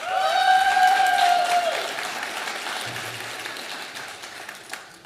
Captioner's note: audience applauding